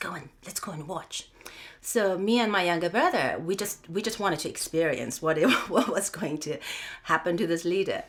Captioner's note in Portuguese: risos